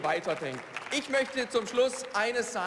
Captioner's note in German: Beifall